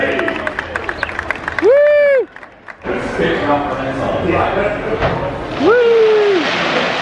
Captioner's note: crowd cheering and applauding